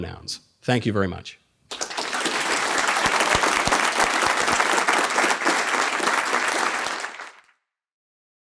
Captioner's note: audience applauding